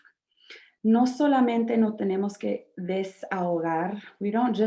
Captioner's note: speaking in Spanish